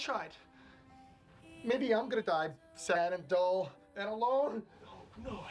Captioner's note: voice breaks